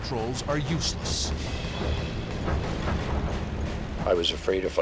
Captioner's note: plane rattling